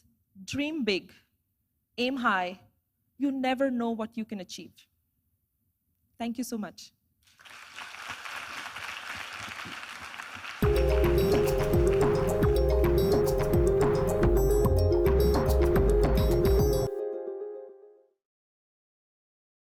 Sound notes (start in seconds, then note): 7.2 applause